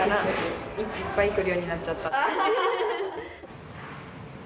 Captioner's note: laughs